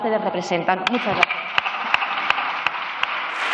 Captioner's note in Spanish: Aplausos